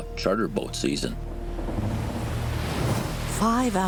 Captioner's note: creaking, waves